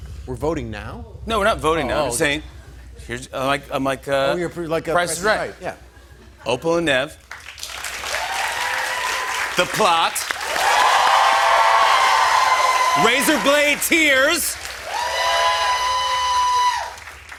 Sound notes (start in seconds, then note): 7.4 cheers and applause; 10.5 loud cheers and applause; 14.9 cheers and applause